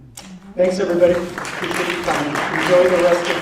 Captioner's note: applause